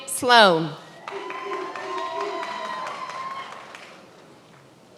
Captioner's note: many applauding